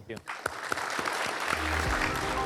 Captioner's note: all applauding